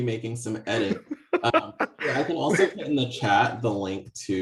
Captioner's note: laughs